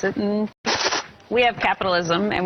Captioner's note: hisses